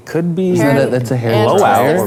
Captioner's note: group murmuring